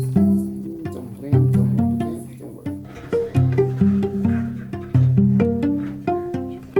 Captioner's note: instrument beeping